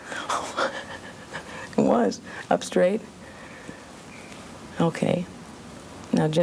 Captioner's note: laughs